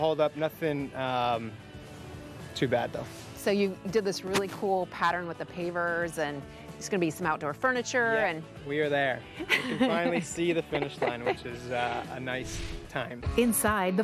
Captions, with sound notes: A little bit of a hold up. Nothing too bad though. - So you did this really cool pattern with the pavers and there’s gonna be some outdoor furniture and... - Yep. We are there. (she laughs) We can finally see the finish line which is a nice time.